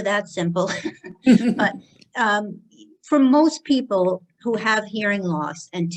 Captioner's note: laughter